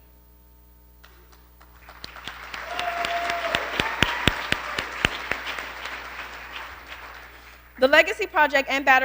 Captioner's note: applause